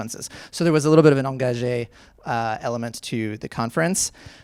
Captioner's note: speaking in foreign language